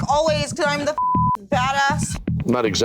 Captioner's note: beep